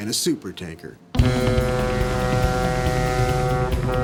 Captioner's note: horn blows